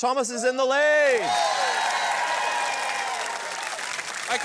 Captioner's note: cheering and applause